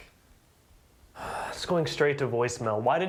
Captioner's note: sighs